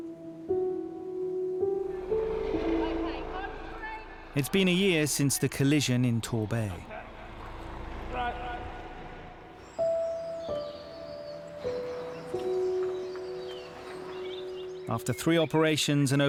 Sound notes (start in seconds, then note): 0.0 gentle ambient music; 9.3 birds tweeting